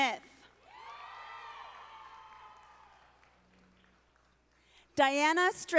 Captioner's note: audience applauding